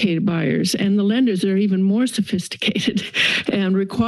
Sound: chuckles

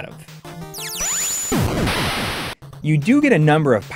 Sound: game audio

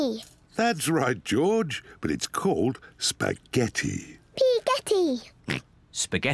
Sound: oinks

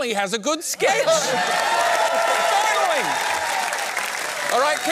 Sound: cheering and applause

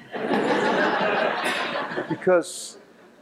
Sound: laughing

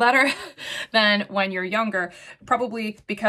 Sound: chuckles

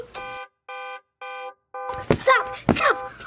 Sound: alarm ringing

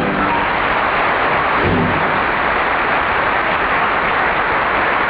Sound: audience applauding

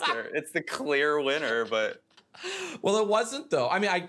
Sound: laughing

